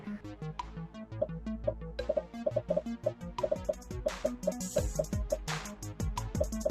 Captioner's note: upbeat music; popping